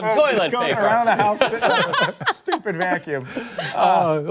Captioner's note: laughter